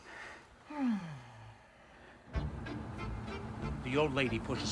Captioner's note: sighs